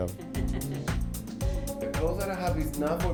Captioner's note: woman laughs